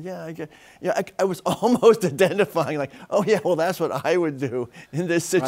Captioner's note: chuckles